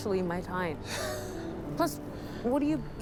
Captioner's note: Regina laughing